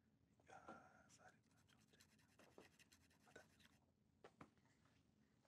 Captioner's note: whispers